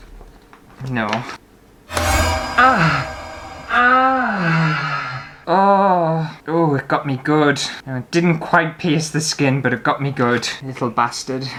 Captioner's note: alarm